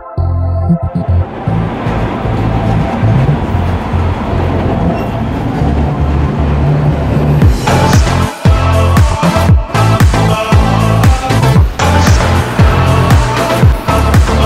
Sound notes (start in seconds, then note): 1.4 train bustling; 7.4 pop music